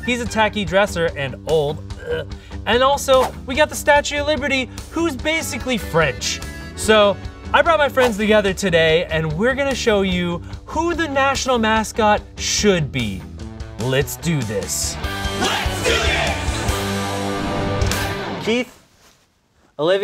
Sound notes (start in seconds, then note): 15.9 crowd; 16.9 rock music